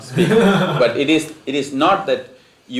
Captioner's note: laughter